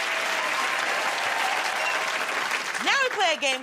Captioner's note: cheers and applause